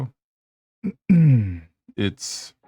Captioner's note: clears throat